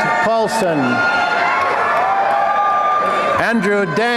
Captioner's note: applause and cheering